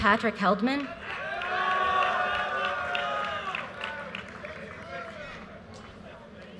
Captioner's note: audience cheers and applause